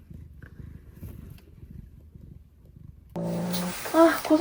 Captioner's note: silence